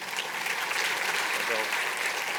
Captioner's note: audience applauding